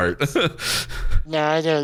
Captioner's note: laughs